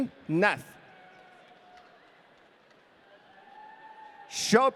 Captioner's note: audience cheering